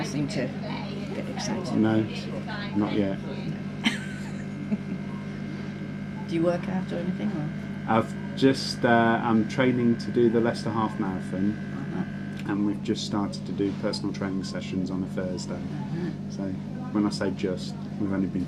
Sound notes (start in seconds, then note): 3.8 laughs